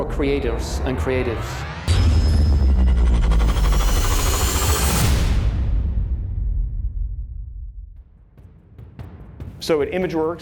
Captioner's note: sound effect